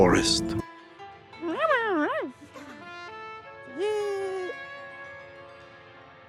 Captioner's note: Excited, emotional Derp-lish chattering